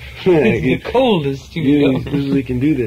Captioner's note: voiceover